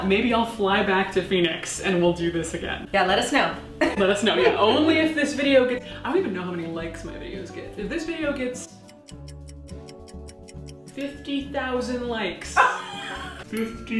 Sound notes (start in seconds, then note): 3.7 laughing; 8.7 clock ticking; 12.6 laughing